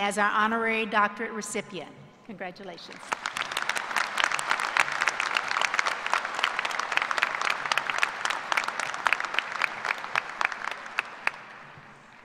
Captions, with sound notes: DEGREE RECIPIENT. CONGRATULATIONS. [APPLAUSE]